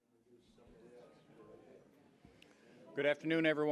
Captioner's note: general chatter